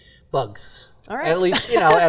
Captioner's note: laughs